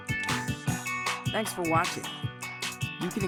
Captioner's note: voiceover